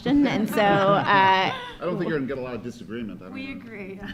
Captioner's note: audience laughing